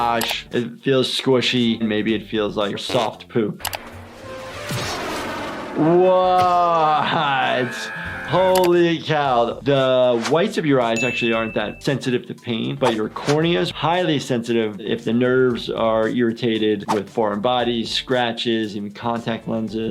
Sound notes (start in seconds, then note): 3.8 jet flying; 5.8 Nutty screaming